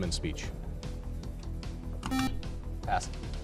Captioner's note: beep